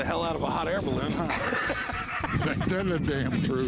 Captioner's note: laughter